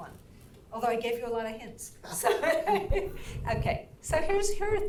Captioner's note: laughs